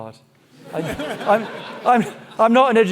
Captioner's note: audience laughing